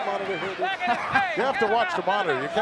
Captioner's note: chuckling